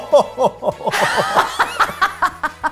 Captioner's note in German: Machttrunkenes Lachen